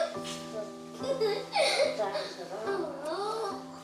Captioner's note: child chatters, laughs